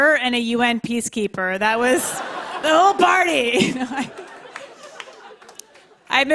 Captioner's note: laughter